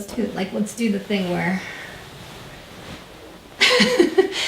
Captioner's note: laughs